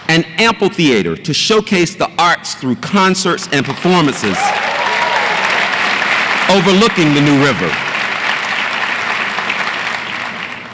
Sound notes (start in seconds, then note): 3.7 audience applauds and cheers